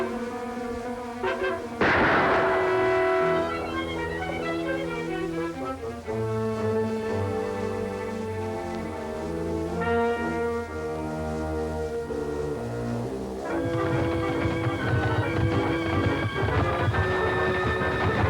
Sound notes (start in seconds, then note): 1.8 gunshot